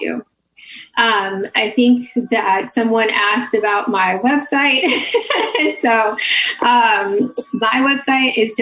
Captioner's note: laughs